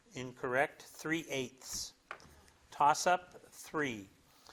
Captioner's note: none